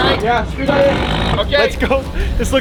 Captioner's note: power tool whirring